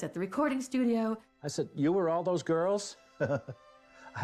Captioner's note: chuckles